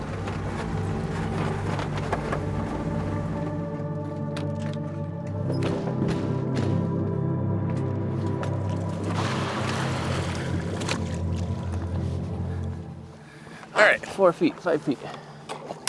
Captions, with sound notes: (vehicle rattling) (suspenseful music continues) (water splashing) All right, four feet, five feet,